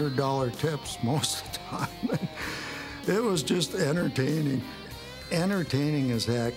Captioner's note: laugh